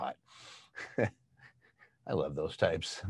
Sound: chuckles

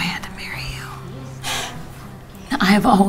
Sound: Jenna exhales

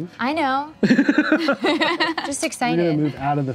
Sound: laughing

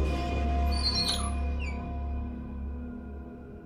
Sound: squeaking

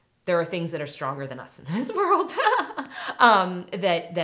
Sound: laughs

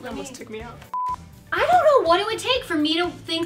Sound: beep

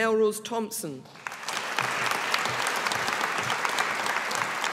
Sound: audience applauding

